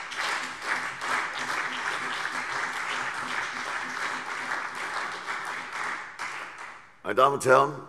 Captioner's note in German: Beifall CDU und BÜNDNIS 90/DIE GRÜNEN